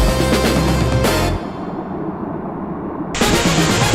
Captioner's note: water sounds, short pause in the soundtrack